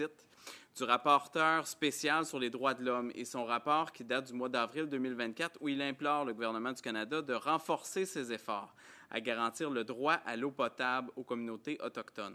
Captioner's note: speaking French